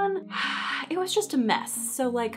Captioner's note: sighing